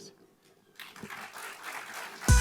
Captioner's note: applause